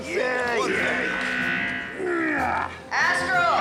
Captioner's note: alarm buzzing